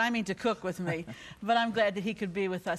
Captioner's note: laughing